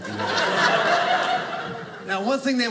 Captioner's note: audience laughing